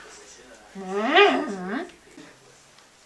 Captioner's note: groans